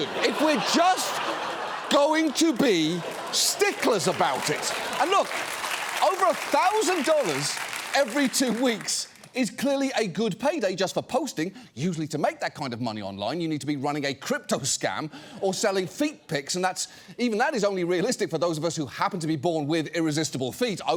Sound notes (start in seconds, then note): 0.0 audience laughs; 4.3 audience applauds